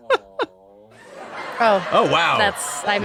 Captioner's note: laughter